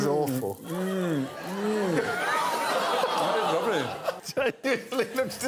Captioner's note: continued groaning